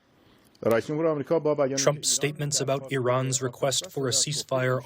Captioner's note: through translator